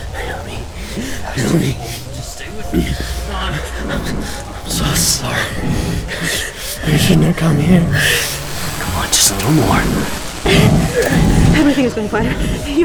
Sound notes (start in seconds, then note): 1.7 grunts of pain